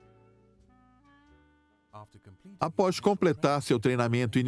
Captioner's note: voiceover